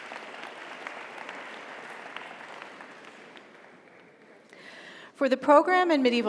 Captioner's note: audience cheers; audience applauds